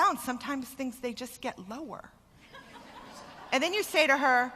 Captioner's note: laughter